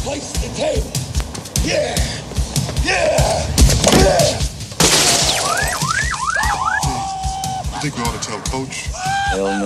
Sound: car alarm goes off

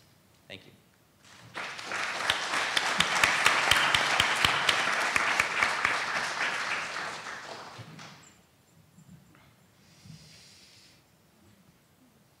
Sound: applause

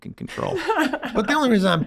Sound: Meg and Rob laugh

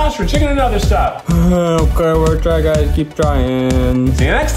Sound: groans

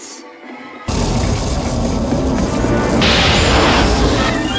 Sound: thundering sounds of a juxtaportation window

